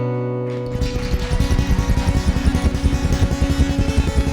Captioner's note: applause